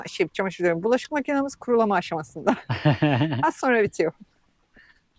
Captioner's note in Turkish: kahkaha